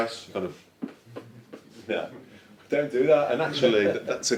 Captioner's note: feet tapping